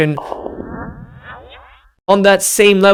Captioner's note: electric whooshing